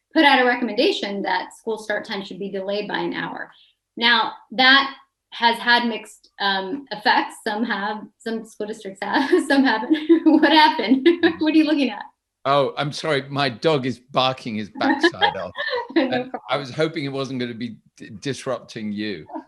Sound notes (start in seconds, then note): 11.1 chuckles; 14.7 laughing